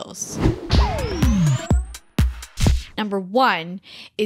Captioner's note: air whooshing; bright music